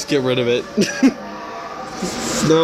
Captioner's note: screaming begins